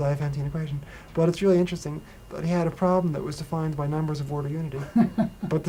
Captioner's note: laughter